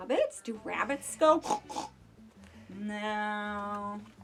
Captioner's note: snorting